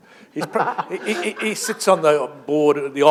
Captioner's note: laughter